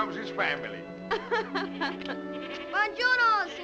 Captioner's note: laughs; bleating